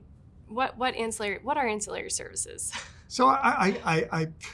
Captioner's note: chuckles